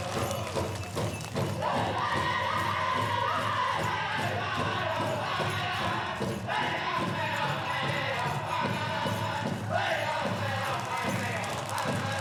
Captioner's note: applause